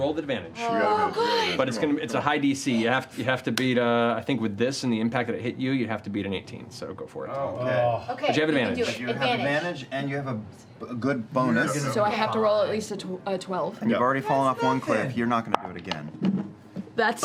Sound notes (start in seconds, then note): none